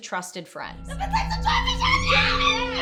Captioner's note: yelling; screaming